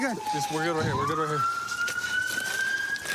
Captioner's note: none